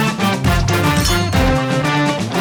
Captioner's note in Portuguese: tilintar